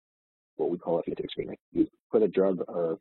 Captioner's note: audio distorts